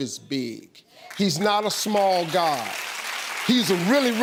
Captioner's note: audience applauds